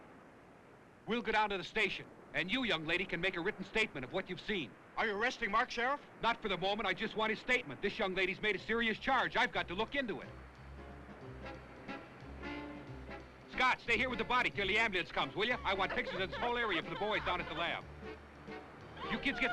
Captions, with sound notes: - We'll go down to the station, and you, young lady, can make a written statement of what you've seen. - Are you arresting, Mark, Sheriff? - Not for the moment. I just want his statement. This young lady's made a serious charge. I've got to look into it. (tense jazz music) Scott, stay here with the body till the ambulance comes, will ya? I want pictures of this whole area for the boys down at the lab. (Sue crying) You kids get some clothes on